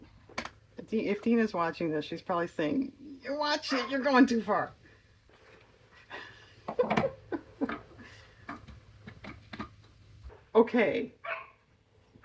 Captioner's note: laughs